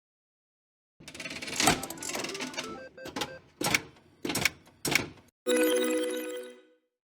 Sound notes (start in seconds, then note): 1.0 slot machine clacking; 1.2 video game music